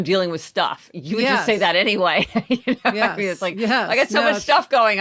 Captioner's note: laughs